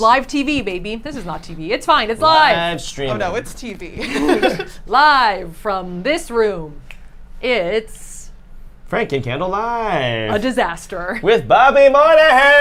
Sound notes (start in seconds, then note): 3.9 giggles; 7.3 snaps